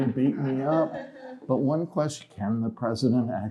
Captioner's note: laughter